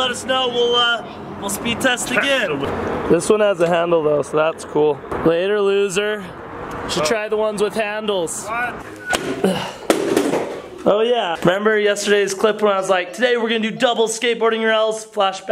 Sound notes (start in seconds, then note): 9.8 heavy thudding